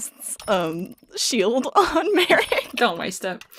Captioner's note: laughs